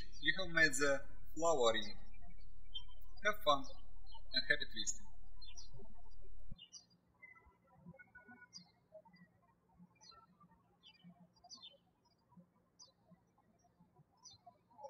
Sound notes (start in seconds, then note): 7.5 birds chirping